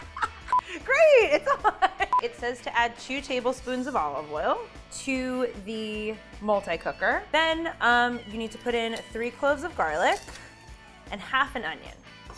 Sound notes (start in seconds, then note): 0.0 laughs